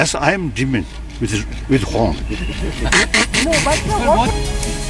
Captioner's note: demonic sound mimicry